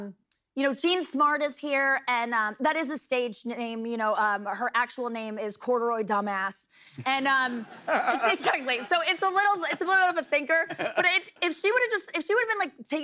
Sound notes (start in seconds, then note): 7.8 light laughter